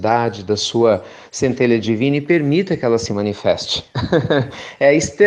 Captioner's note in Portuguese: Risos